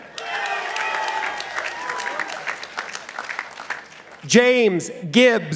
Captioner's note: participants applauding